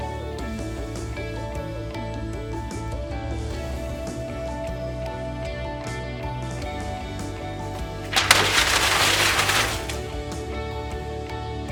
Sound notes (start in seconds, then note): 8.1 loud whipping crash and sustained rustling